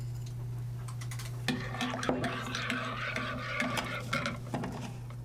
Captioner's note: stirring coffee